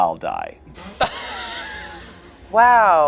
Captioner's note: laughs